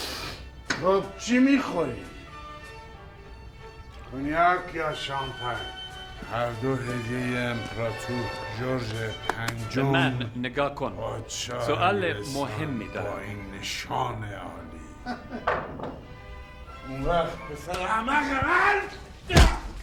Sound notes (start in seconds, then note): 15.0 laughing